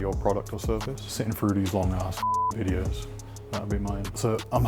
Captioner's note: beep